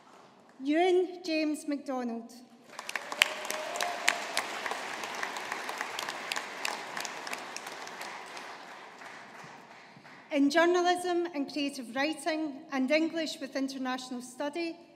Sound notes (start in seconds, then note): 2.6 audience applauding